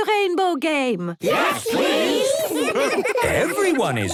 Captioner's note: laughter